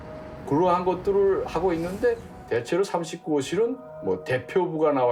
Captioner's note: speaking Korean